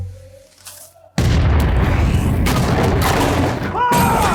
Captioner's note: gunshots; screams